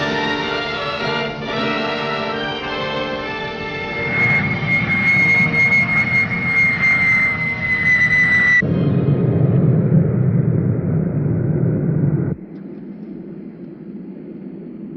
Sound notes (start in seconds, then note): 4.6 airplane engine whirring; 8.9 wind whirring